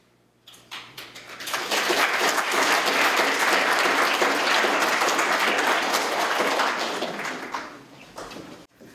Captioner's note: applause